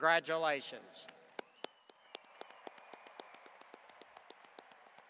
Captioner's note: audience applauding